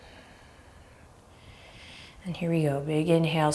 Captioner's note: deep breath